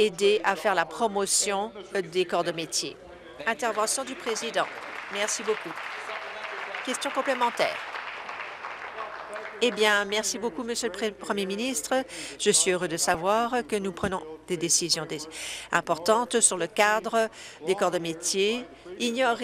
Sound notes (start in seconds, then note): 9.2 applause